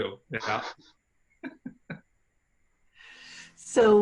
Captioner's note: laughing